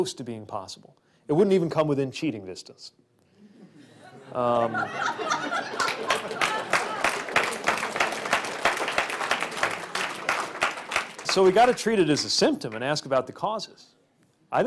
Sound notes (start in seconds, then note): 5.4 laughter; 5.7 applause